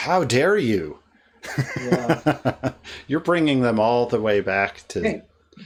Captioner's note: laughs